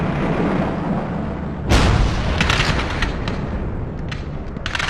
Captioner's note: explosion booms